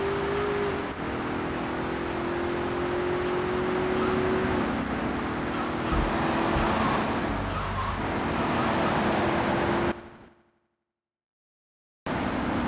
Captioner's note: sirens wailing